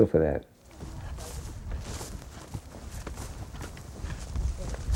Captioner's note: walking through grass